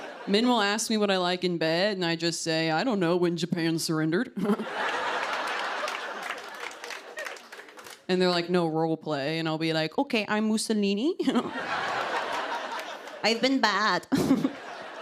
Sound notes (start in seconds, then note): 4.4 laughter